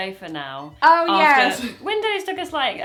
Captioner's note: she laughs